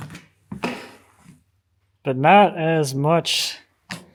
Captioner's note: none